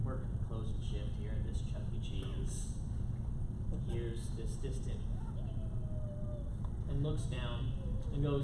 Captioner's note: squeaking